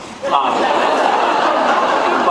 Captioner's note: laughs